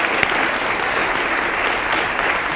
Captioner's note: applause